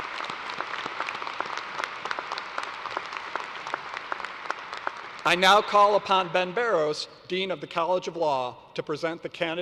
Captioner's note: applause